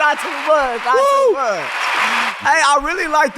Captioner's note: audience applauding